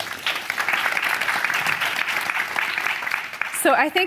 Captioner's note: audience applauding